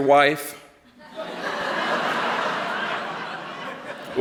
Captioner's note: laughter